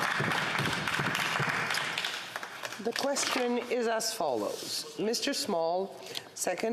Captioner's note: some Applause